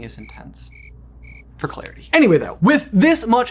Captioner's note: cricket chirping